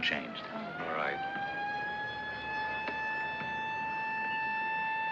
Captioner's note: siren Blaring